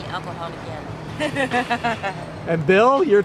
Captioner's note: laughs